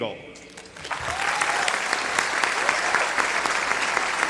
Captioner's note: applause